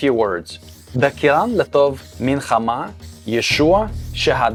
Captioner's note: reading in Aramaic